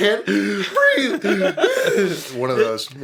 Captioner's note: wheeze